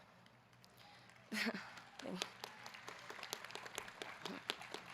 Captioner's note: audience clapping